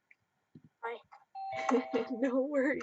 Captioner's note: bell dinging